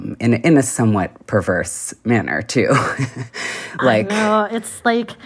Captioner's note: laughter